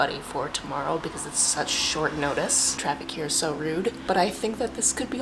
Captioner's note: car sounds